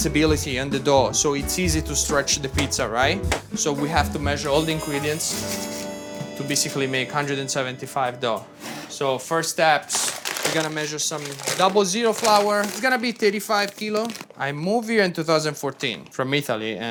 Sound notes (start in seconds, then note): 5.3 paper rustling; 9.6 paper bag rustling